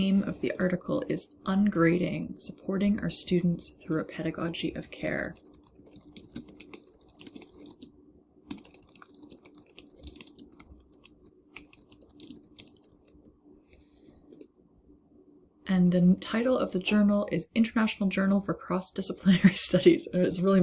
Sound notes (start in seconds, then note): 6.5 keyboard clicking